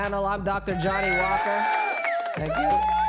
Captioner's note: applause